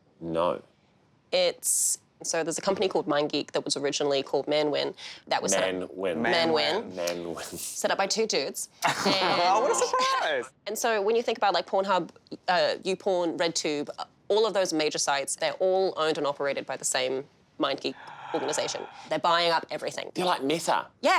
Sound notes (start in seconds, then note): 17.9 gasping